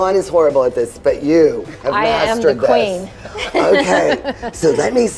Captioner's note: laughs